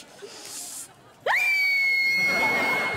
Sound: screaming

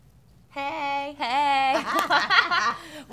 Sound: laughing

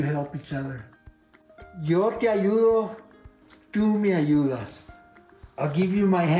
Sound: speaking spanish

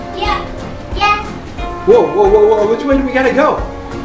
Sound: voiceover

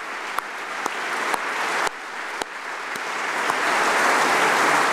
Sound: applause

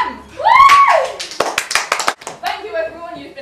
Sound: cheers and applause

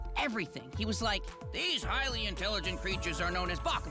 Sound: Dan with raspy voice

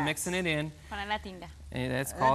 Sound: speaks in Spanish

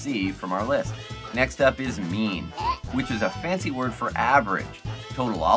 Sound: hand snatches lollipop from a baby and baby cries

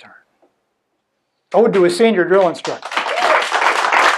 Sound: audience clapping

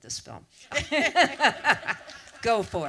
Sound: laugh

